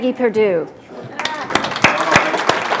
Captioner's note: applause